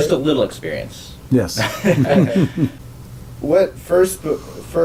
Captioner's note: laugh